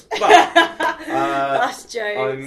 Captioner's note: both laugh